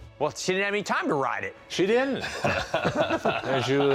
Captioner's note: laughter